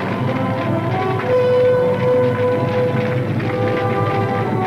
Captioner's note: fire crackling